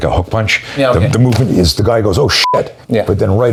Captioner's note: beep